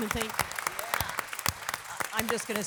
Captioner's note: audience applause